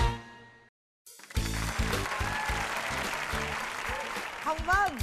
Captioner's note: applause